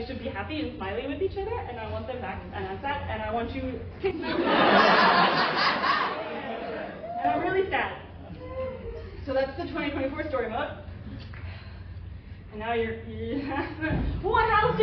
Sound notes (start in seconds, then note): 4.2 laughter